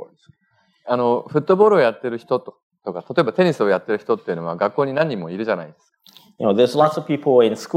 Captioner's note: speaking japanese